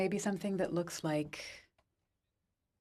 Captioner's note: speaking French